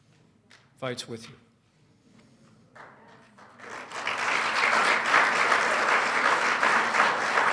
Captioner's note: applause